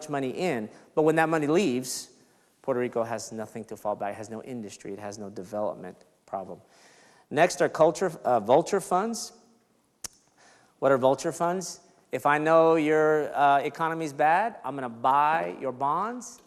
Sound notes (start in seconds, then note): none